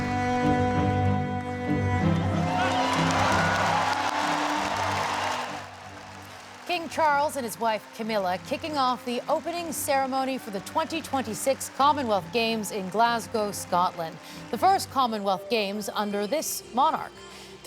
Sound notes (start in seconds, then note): 4.4 cheers and applause